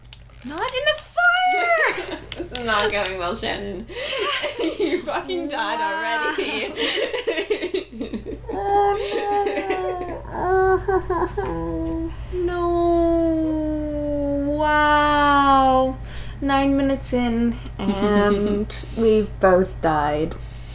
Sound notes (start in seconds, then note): 3.9 laughing; 6.2 laughter